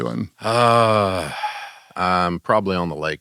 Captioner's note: exhales